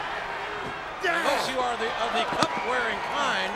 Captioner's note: Undertaker grunting